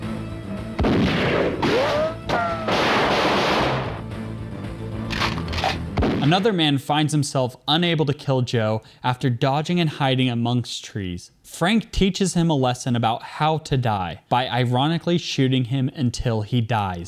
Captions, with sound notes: (gunshots) Another man finds himself unable to kill Joe after dodging and hiding amongst trees. Frank teaches him a lesson about how to die by ironically shooting him until he dies.